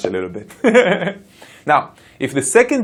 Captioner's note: laughing